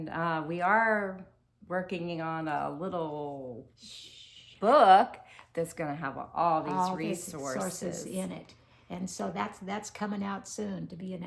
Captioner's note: shhh